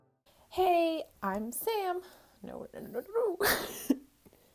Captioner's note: laughs